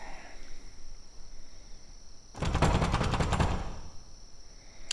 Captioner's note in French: Toc! Toc! Toc!